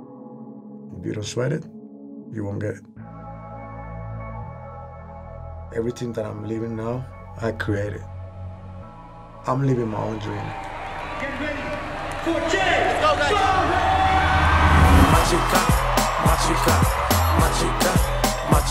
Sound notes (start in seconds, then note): 13.2 reggaeton song playing; 14.5 crowd cheering